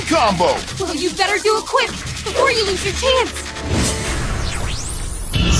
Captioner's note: yells